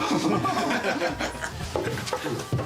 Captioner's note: staff members chuckle